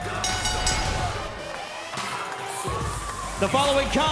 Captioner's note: bell ringing